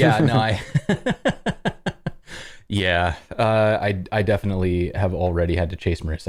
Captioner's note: laughter